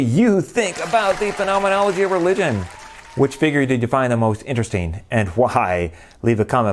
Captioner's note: applause